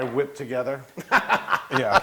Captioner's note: laugh